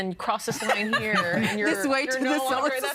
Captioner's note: laughing